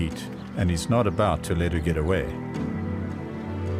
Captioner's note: animals calling